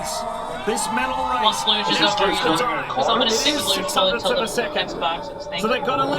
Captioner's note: commentators and employees chattering indistinctly